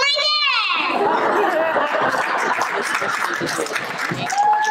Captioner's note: laughter; applause